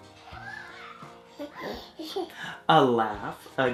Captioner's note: giggles